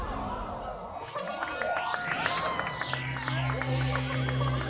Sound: cheering; applause; laughing

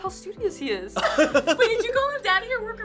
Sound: laughter

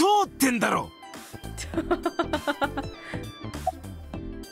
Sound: chuckles

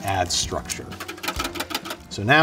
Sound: container clattering

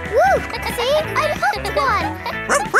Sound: kids laughing

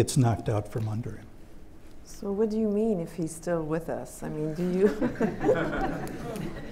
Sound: laughter

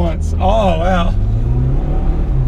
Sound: sarcastic

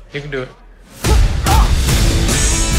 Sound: grunting

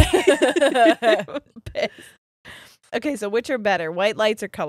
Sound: both laughing

